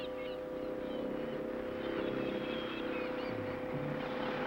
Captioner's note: motor running